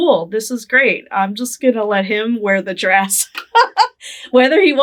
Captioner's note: laughing